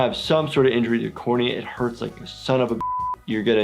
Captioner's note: beep